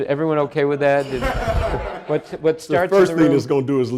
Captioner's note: audience laughing